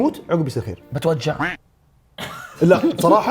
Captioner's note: laughs